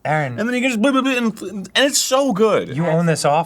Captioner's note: stammers